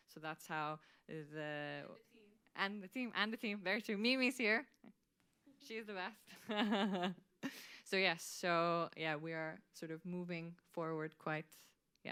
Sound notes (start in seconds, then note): 6.6 laughs